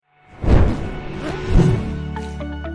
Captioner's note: explosion; upbeat music